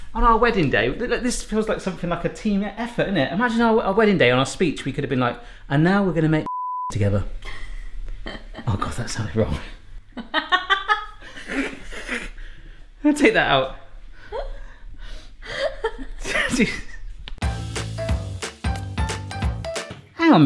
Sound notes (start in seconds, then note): 6.4 beep; 8.2 laughs; 13.2 laughing; 17.5 playful piano music